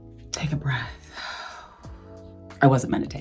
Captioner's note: Gabrielle breathes out